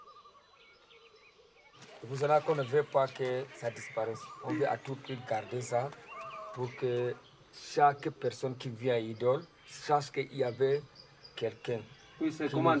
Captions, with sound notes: [IN FRENCH] "That's why we don't want it to disappear. We are determined to preserve it so that every visitor of Idool -knows that there was someone. -Yes, it's like a sign of respect, right?